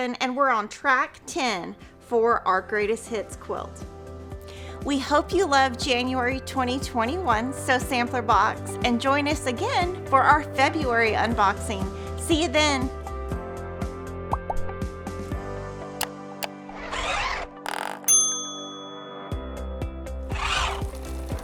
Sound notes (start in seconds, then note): 14.4 upbeat music; 18.0 bell rings